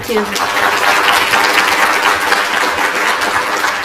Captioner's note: applause